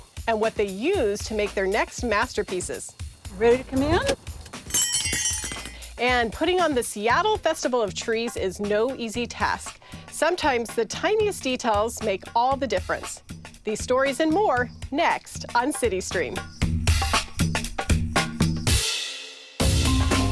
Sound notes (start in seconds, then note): 5.9 bells jingle